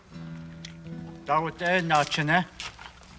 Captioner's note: non-english speech